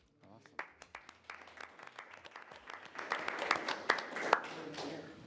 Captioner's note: all clapping